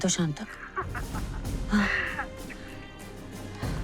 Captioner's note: Nandita giggling; sighs